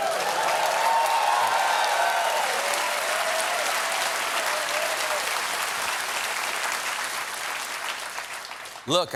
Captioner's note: cheers and applause